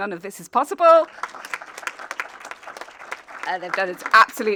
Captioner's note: audience applauding